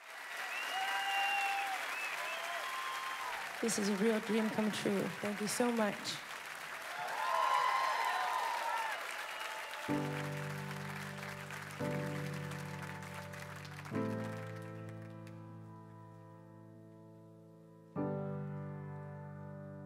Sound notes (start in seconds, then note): 0.1 audience applauds; 6.3 audience cheers